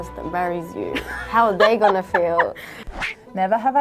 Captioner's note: laughing